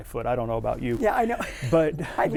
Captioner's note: laughs